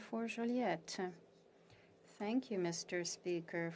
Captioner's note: speaking French